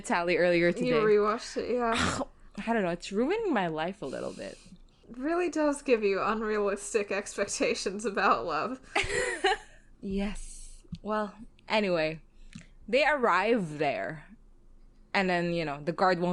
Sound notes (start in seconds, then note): 9.9 laughs